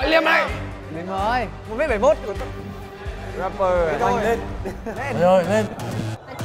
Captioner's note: overlapping chatter